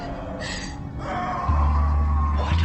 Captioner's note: John screaming